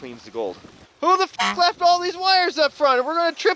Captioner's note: honk